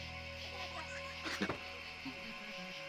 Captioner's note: giggling